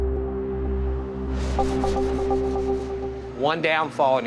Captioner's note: tense music; cloth scraping